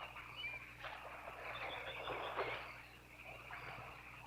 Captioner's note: water splashing